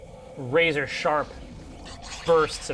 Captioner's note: hisses